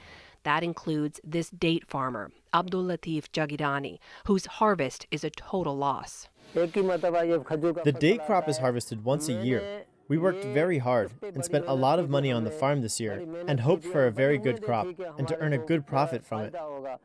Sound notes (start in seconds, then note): 7.1 through translator